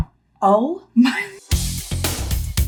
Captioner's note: chuckles; upbeat music